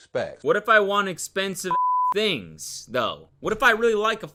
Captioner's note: beep